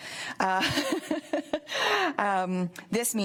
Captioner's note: laughs